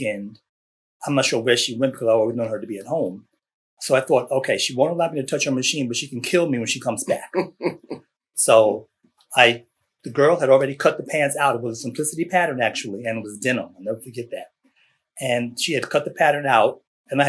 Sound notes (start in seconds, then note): 7.0 laughter